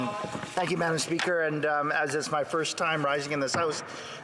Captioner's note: some Applause